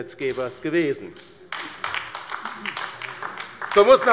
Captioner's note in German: Beifall bei der LINKEN